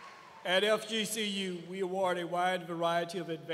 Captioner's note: cheers and applause